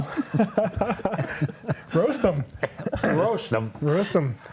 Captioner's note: laughs